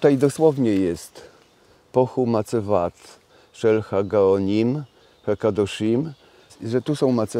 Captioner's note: reads in Hebrew